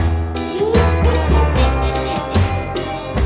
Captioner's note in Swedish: Skrattar läskigt